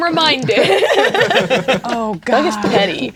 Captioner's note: players laughing